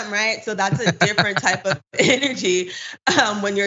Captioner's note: laugh